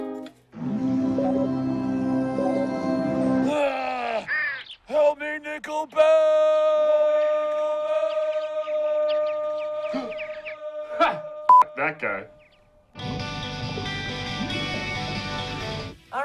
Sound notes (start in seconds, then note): 5.8 echoing; 9.9 gasps